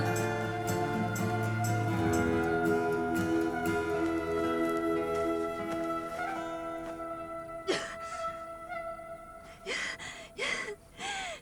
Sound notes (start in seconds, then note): 7.6 Clive crying